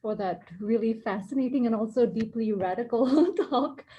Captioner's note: giggle